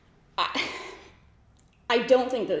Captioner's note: sighs